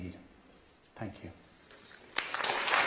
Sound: applause

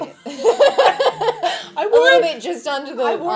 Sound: women laughing

